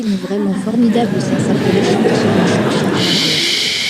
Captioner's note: crowd laughing